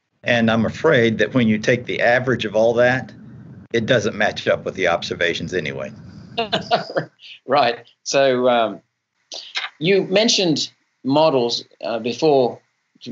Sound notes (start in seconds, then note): 6.5 laughing